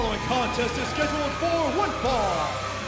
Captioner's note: bell ringing